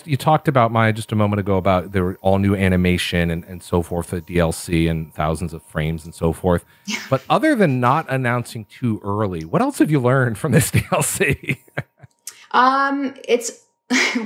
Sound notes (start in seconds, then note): 10.5 laughs